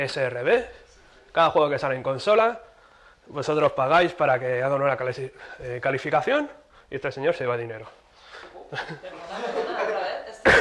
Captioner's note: laughs